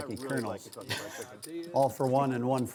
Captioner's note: chuckles